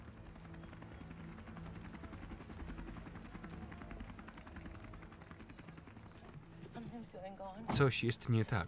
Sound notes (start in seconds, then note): 0.0 helicopter rumbles